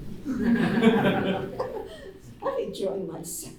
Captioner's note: laughter